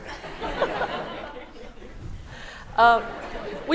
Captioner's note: laughter